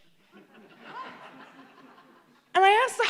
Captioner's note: laughter